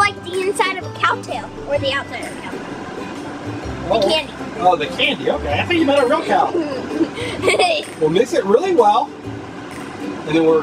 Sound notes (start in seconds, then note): 7.5 laughing